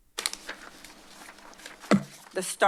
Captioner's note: paper shuffling